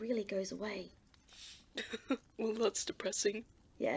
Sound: James laughs dryly

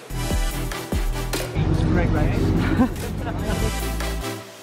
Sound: laughter in background

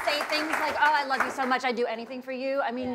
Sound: cheers and applause

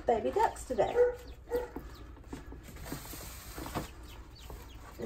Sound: rustling sounds setting up duck brooder

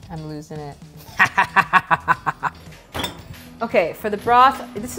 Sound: evil laugh

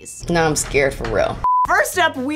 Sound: screen beeping

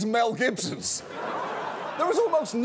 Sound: audience laughs

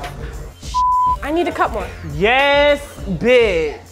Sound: beep

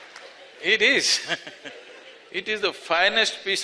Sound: laughter/Applause; laughs

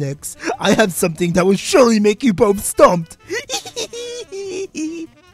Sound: laughter of joy

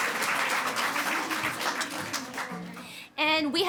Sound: audience speaking faintly

